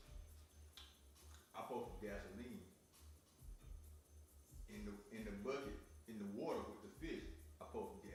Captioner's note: sucks teeth